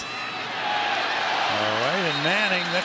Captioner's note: cheering